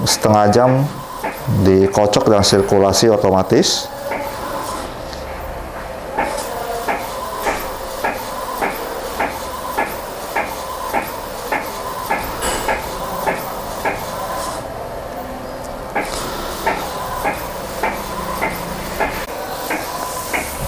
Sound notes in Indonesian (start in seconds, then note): 0.1 suara mesin printer